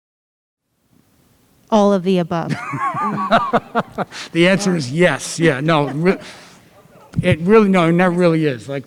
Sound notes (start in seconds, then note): 2.4 laugh